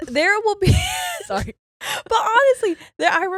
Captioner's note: laughing